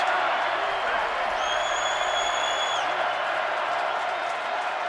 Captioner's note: crowd cheering